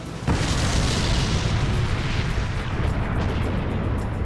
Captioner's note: plane explodes